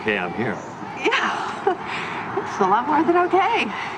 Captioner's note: chuckles